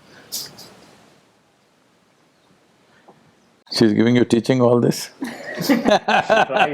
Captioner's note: laughs